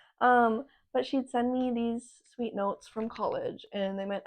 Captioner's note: none